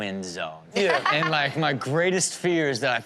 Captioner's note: Chanel laughs